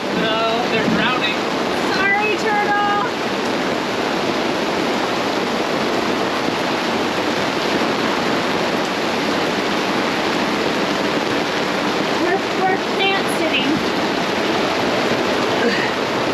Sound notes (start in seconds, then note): 3.8 raindrops pounding